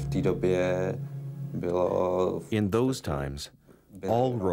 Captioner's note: speaking Czech